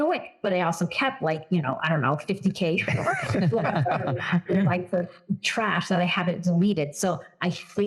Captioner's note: laugh